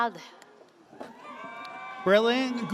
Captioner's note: audience cheers